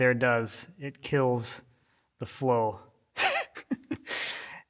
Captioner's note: laughs